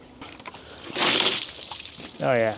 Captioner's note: water splashes